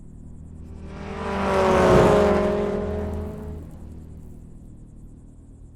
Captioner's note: car engine rumbling